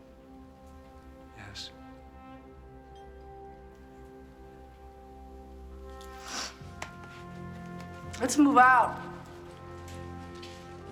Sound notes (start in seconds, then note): 6.0 sniffles